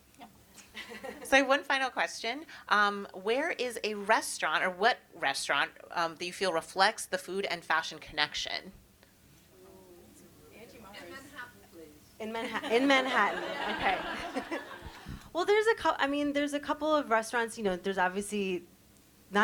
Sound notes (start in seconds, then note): 0.8 chcukles; 12.6 all laugh